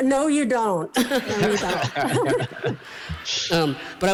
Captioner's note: laughter